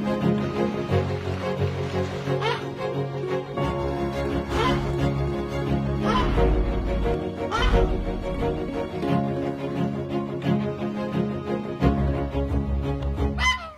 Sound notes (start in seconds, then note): 4.4 goose honking